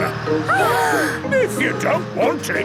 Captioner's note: children gasp